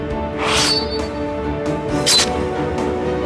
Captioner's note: Hanee thuds; dramatic music; sword pings; sword slashing; dramatic music